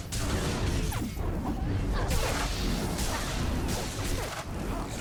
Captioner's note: gunshots